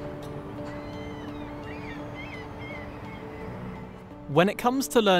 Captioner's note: birds chirping